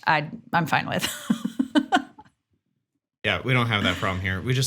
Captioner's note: chuckles